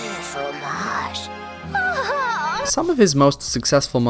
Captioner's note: moan